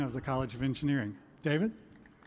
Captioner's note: applause